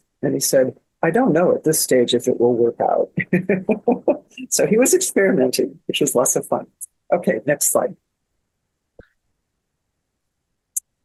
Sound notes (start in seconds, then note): 3.2 laughs